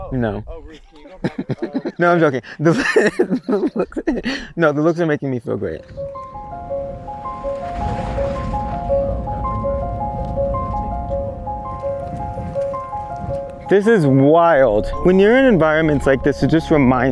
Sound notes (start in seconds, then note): 2.2 laughs; 6.5 bright piano music